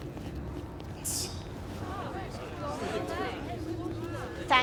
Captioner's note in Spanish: parloteo